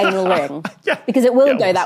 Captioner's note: laughs